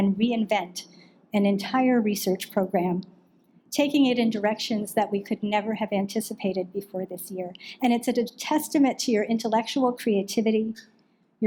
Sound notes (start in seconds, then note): none